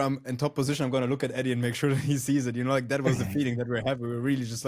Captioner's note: laughs